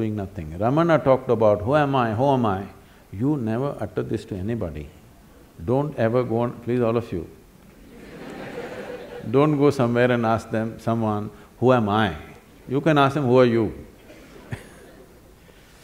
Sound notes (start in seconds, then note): 7.8 laughter; 14.0 laughs